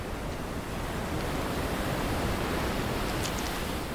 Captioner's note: waves whooshing